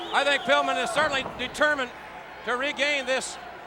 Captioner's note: blows thudding; crowd clamoring